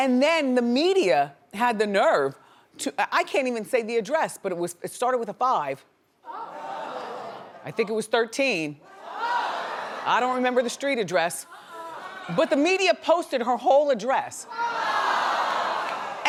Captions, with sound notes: Then the media had the nerve, I can't even say the address, but it started with a five. (audience gasps) I think it was 13. (audience gasps) I don't remember the street address, but the media posted her whole address. (audience groans)